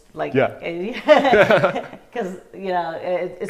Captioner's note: both laughing